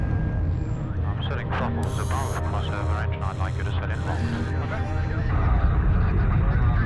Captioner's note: radio Transmission Conversation; foreign Radio Transmission; radio Transmission